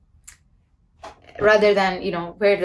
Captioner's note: light whooshing